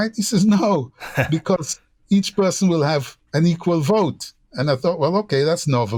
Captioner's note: laughter